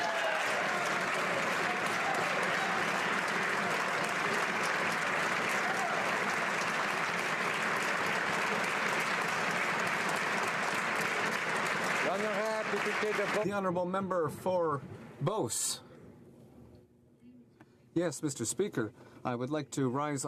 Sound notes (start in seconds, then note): 4.2 applause